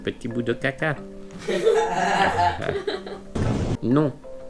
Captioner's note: laughs